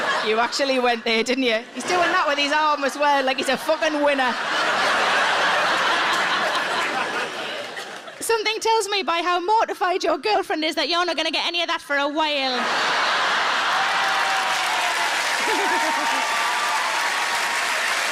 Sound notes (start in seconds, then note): 0.0 audience laughs; 5.0 audience laughs; 12.5 audience laughs; 14.6 audience applauds